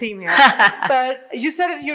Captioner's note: laughs